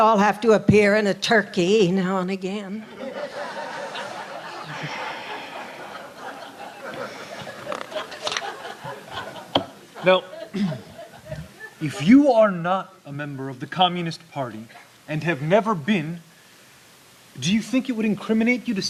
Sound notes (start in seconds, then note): 5.2 laughter